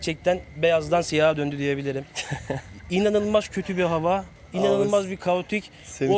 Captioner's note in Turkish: kahkaha